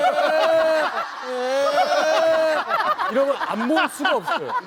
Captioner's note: wailing